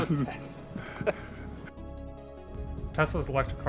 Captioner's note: Gülme